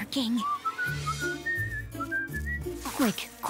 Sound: whistling

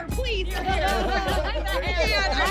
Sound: all laughing

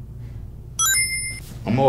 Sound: Sonic ring sound effect

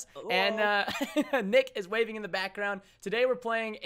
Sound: laughs

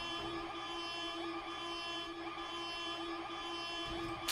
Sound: siren ringing

